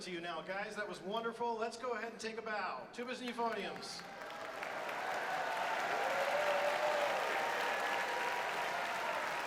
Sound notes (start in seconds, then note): 3.9 audience cheers and applauds